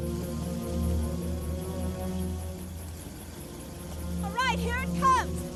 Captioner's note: dramatic music; car engine revving